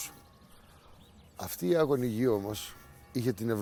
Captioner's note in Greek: ακούγονται καμπάνες να ηχούν